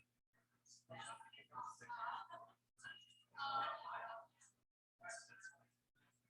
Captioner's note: people chattering indistinctly